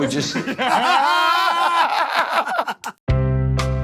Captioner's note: laughter